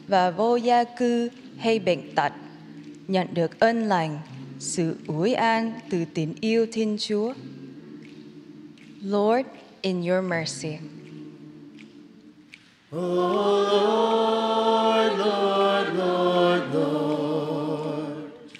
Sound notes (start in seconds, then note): 0.0 speaking in spanish; 4.8 speaking in vietnamese